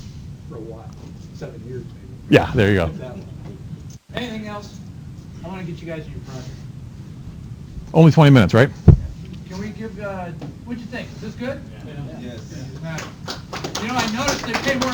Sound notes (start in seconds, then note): 12.8 applause